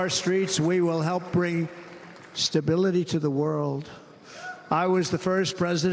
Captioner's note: cheers and applause